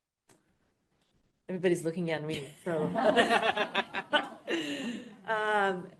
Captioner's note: laughter